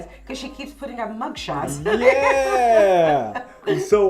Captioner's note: laughs